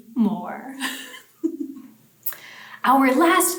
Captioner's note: laughs